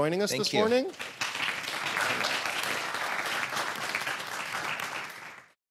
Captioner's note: applause